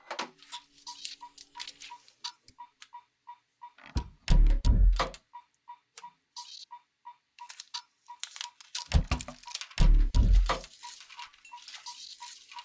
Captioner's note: clicks, beeps, tone